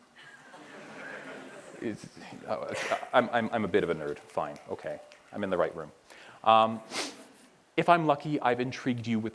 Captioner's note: laughter